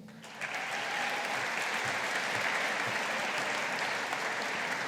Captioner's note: audience applauding